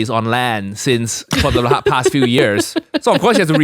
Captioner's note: laughs